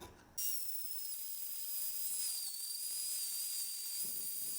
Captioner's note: Dremel buzzing